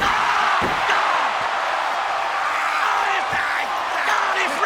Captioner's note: crowd cheers